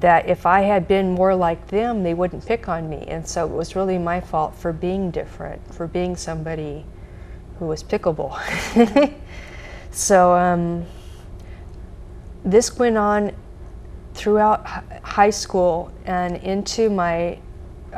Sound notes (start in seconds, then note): 8.4 laughs